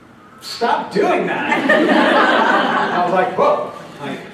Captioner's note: laughter